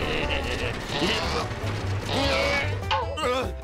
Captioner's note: grunting